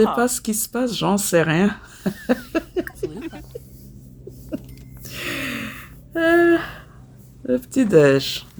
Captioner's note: laughs